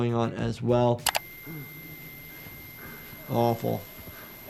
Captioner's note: tinnitus trilling